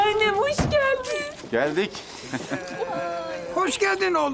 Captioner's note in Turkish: İbrahim gülme sesi